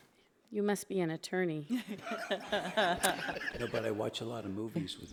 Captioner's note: audience laughs